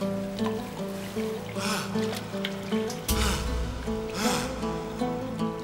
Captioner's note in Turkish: Derin nefesler alıyor